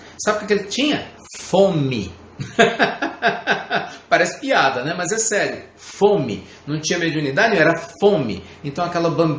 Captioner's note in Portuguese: Risos